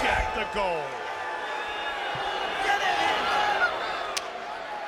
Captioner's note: crowd booing